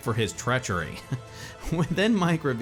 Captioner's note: narrator chuckling